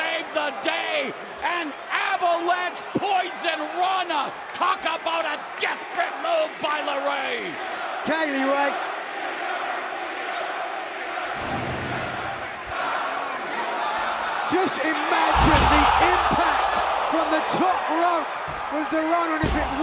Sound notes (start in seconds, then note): 11.0 crowd cheering